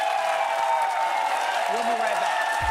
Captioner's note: cheers and applause